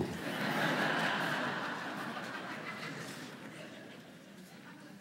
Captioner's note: laughter